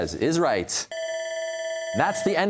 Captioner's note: bell ringing